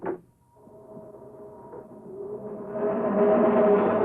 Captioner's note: whirring